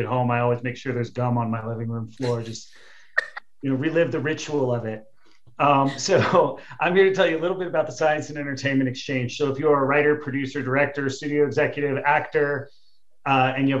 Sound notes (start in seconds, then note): 5.0 laughing